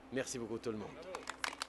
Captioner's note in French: Applaudissements